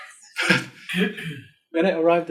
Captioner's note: group laughing